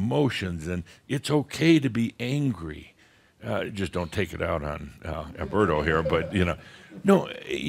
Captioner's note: a few chuckles